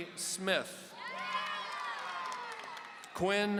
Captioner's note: audience cheering